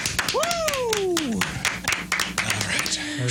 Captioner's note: applause